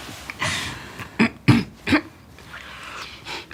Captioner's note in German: Räuspern